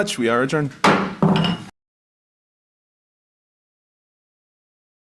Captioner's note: chair hitting gavel